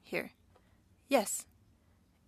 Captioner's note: speaking French